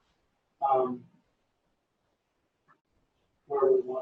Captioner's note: pause